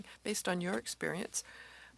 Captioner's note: speaking French